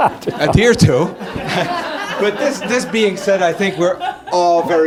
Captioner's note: laugh